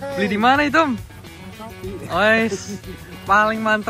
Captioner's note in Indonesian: Tertawa